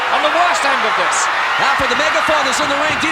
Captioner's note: audience cheering